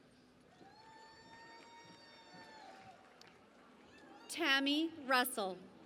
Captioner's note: cheering and Applause